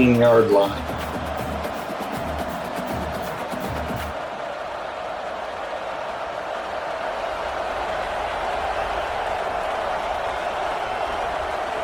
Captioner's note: crowd cheering